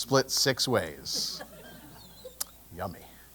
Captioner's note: laugh